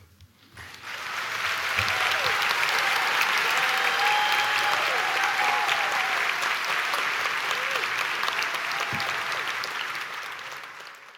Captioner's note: applause